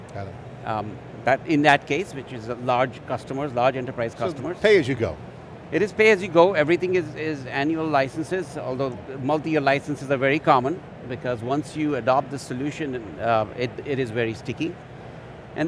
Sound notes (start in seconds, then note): none